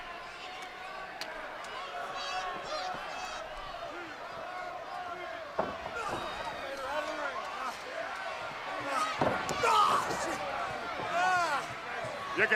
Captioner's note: crowd chatter